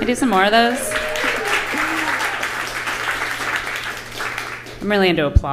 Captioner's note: applause and cheers